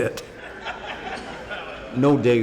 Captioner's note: crowd laughing